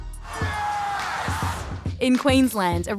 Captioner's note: cheering